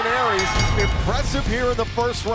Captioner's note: bell ringing